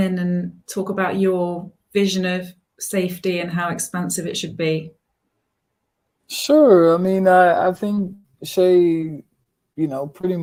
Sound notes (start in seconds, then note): none